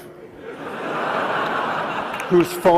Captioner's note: audience laughs